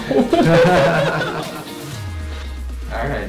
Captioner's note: people laughing